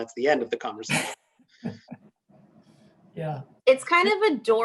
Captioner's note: laughs